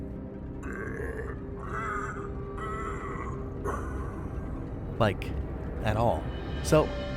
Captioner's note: grunting Noises